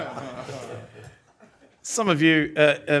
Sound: laughter

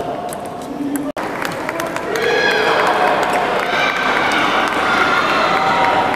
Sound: applause

